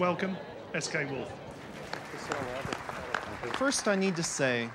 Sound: applause

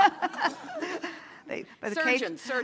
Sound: laugh

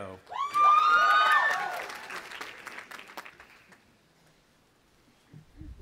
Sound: audience applauding and cheering

